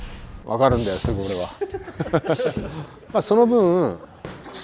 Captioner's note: laughs